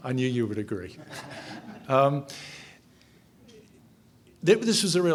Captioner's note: audience chuckles